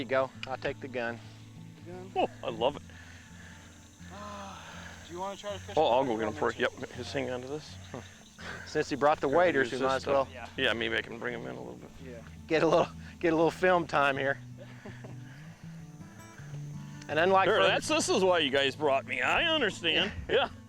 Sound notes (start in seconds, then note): 14.4 laughing